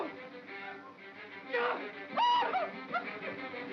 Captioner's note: Stan yelps; Ollie cries out; suspenseful music